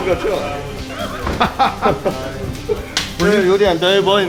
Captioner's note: laughs